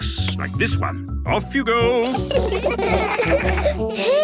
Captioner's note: laughter